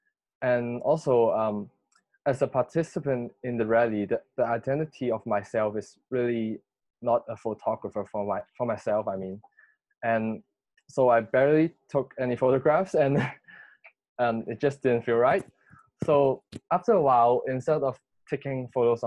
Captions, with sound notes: as a participant in the rally - the identity of myself is really not as a photographer - for myself I mean - and so I barely took any photographs [laughs] and and it just didn't feel right, so after a while instead of taking photos on the